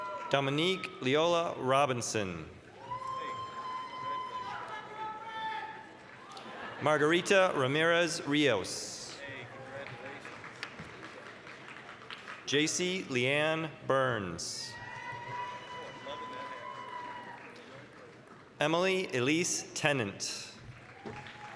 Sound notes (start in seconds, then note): 2.7 applause, cheering; 9.1 applause; 14.6 applause, cheering; 20.6 applause, cheering